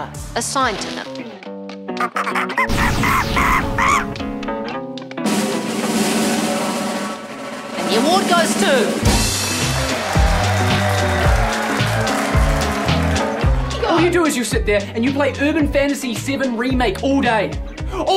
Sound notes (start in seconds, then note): 1.2 uplifting music; 2.0 monkey screams; 5.5 drum rolls; 9.0 crowd claps and cheers